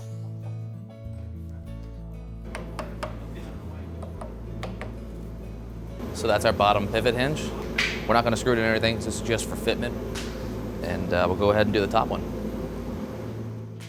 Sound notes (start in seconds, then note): 2.5 hammer tapping; 4.2 mellow music; 13.6 mellow music